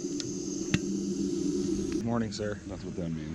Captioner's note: clicking